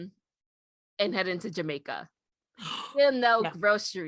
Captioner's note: gasp